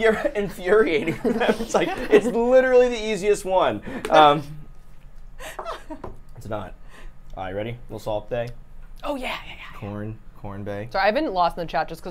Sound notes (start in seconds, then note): 5.4 laughs